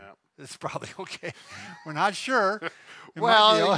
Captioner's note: laughing